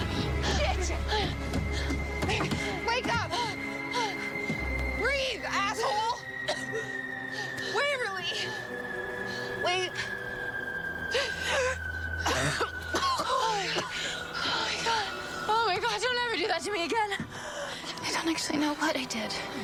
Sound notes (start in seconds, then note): 6.4 Nicole coughing; 10.3 gasps; 12.1 coughing